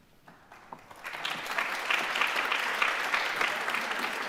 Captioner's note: audience clapping